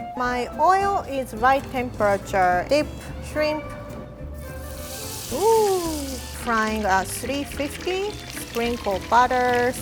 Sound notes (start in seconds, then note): 4.3 oil sizzling